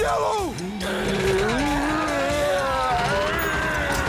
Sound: groaning; ripping

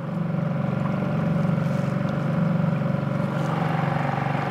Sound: boat engine chugging

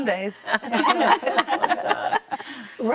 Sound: laughter

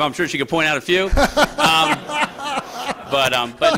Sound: laughter

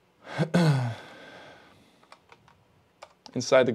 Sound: clears throat

